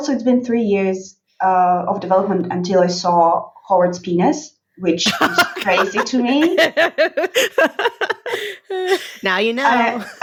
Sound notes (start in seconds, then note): 5.0 laughing